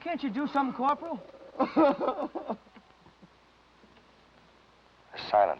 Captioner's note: Danny sobbing